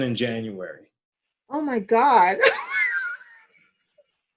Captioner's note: laughter